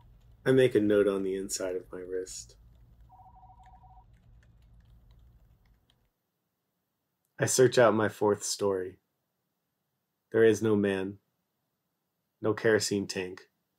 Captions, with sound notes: I make a note on the inside of my wrist. [distant phone ringing] I search out my fourth story. There is no man. No kerosene tank.